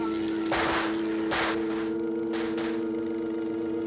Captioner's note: gun firing